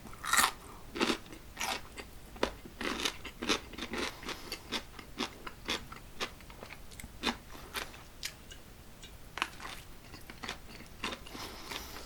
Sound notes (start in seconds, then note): 10.7 sound sausage biting